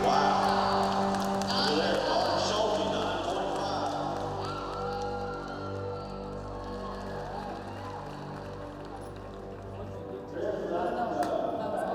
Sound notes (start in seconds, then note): 2.0 speaking indistinctly over loudspeaker; 4.9 cheers and applause